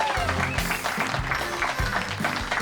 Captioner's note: whistles